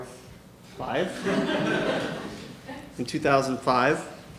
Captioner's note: audience laughing